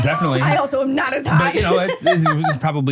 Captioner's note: laughs